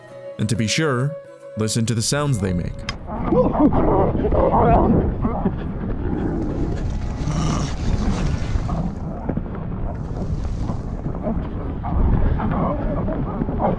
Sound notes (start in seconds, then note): 3.7 wind rushing, pinnipeds growling; 7.1 pinniped growls close to camera